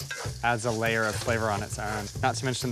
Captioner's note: none